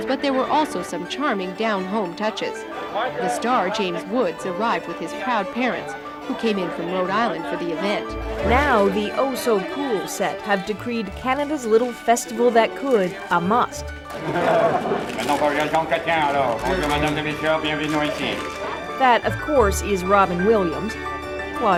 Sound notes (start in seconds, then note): 14.2 mumbles an impression